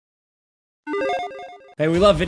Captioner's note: electronic chiming